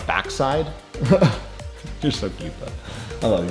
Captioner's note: laughs